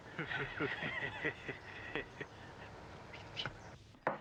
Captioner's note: men laughing